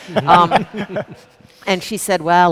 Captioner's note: people laughing